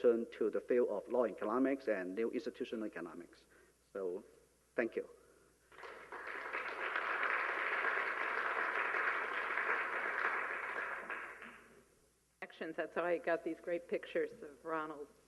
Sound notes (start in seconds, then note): 5.7 applause